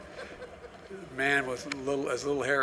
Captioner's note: laughter